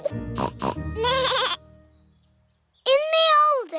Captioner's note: both giggling; snorts; bleats